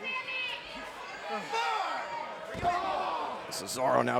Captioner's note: crowd shouting